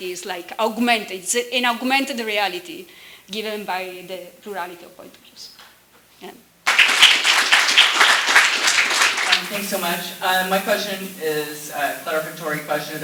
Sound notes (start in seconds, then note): 6.6 applause